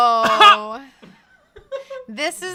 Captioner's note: guffaws